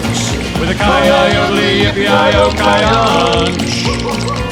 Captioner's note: wolf howling